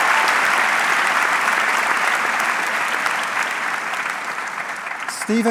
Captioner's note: audience clapping